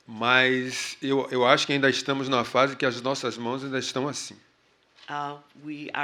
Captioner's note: speaking portuguese